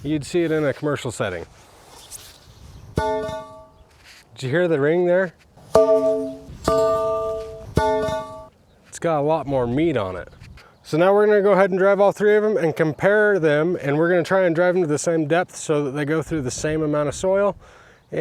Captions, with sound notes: You'd see it in a commercial setting. (metal pole bangs) Did you hear the ring there? (metal pole bangs) (metal pole bangs) (metal pole bangs) It's got a lot more meat on it. So now we're gonna go ahead and drive all three of them and compare them and we're gonna try and drive into the same depth so that they go through the same amount of soil.